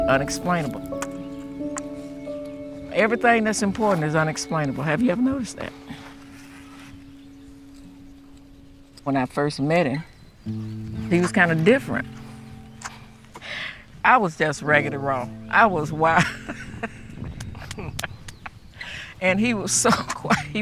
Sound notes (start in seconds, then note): 15.9 laughs